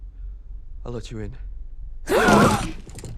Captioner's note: gasping